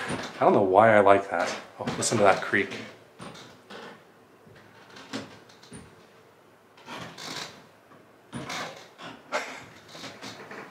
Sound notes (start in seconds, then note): 4.8 wood floor creaking